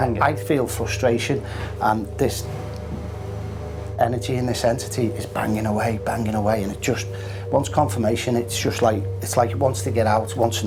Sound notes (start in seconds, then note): 2.2 scraping noise